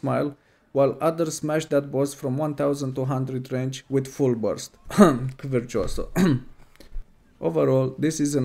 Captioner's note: cough